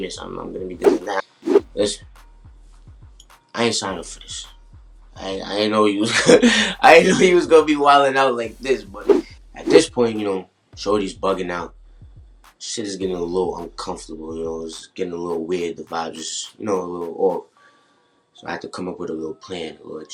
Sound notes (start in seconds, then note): 6.2 laughs